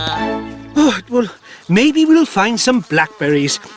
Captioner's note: sigh!